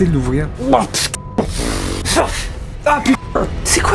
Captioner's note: cry of disgust